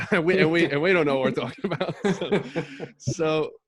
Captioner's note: laughs